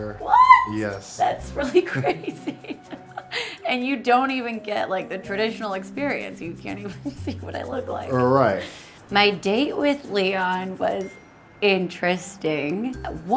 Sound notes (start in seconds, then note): 1.6 laughing